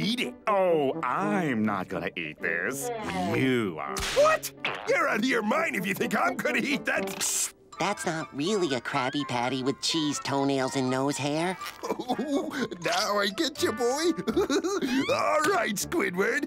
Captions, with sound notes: Oh, I'm not gonna eat this. - You are. - What? You're outta your mind if you think I'm gonna eat that s... Shh! That's not really a Krabby Patty with cheese toenails and nose hair. [laughing] Now, I get you boy. [laughing] Alright, Squidward.